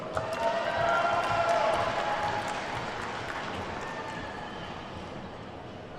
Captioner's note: attendees whooping and clapping